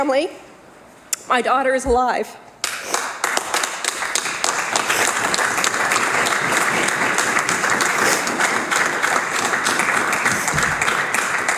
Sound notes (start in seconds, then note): 9.4 applause